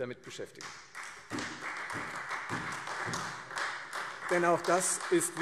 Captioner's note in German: Beifall